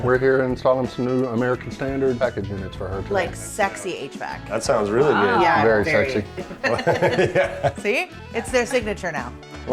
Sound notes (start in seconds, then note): 5.8 all laughing